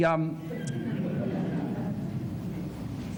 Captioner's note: laughter